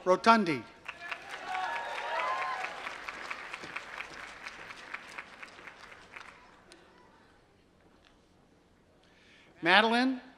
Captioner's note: applause